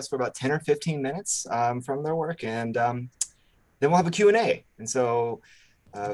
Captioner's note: lips smack